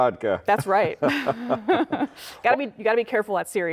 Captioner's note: laughing